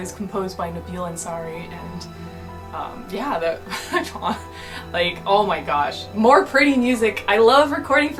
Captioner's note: mumbles